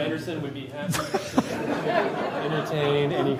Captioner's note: laughter